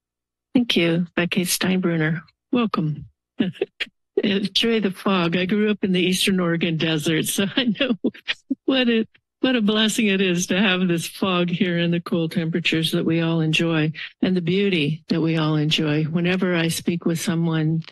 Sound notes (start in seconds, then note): 7.2 laughter